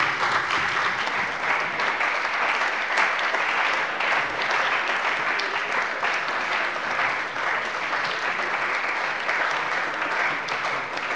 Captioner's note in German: Beifall bei der CDU und dem BÜNDNIS 90/DIE GRÜNEN